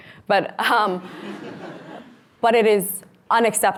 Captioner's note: audience laughs